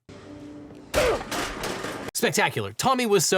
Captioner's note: chair clattering